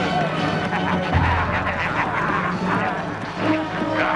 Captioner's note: raiders laughing